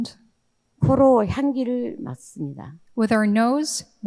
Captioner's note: speaking in foreign language